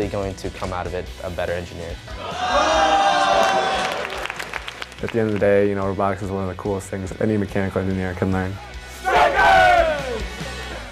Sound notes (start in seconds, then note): 2.2 cheering and applause